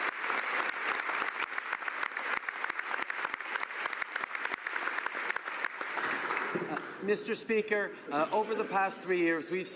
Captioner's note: applause